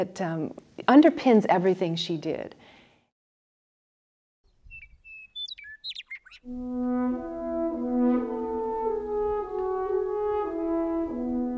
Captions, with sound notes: underpins everything she did. (birds chirping) (slow music)